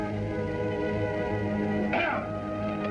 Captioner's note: yelp